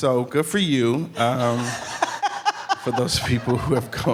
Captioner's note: audience laughing